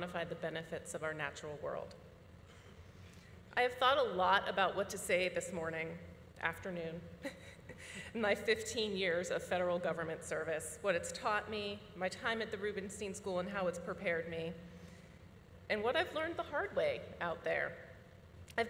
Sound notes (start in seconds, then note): 7.3 chuckles